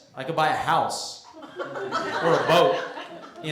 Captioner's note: laughter